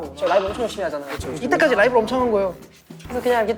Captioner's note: voice change due to singing live too much